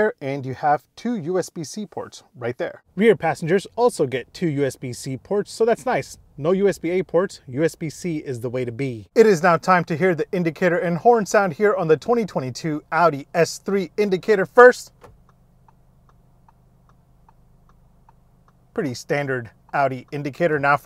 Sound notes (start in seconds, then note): 14.8 indicator clicking